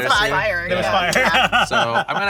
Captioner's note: laughs